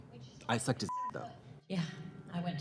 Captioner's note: beep